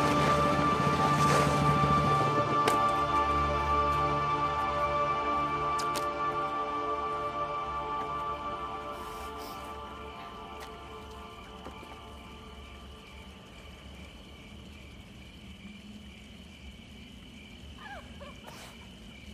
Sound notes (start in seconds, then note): 12.0 insects chirping; 17.8 woman laughing